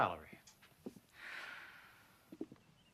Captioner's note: sighs